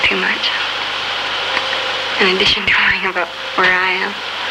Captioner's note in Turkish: gülüyor